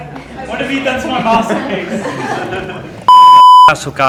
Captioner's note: laughter